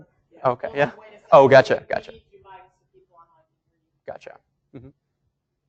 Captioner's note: woman mumbling